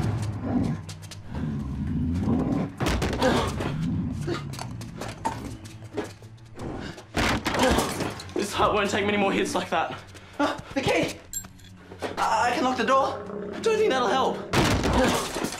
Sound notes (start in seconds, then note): 0.0 cracking sound; 1.1 rhino growls; 8.1 cracking sound